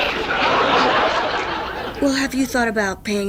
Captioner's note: audience laughs